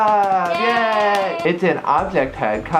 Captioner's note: both clapping and cheering